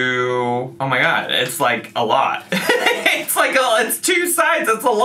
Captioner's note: laughs